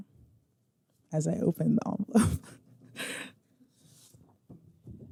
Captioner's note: laughs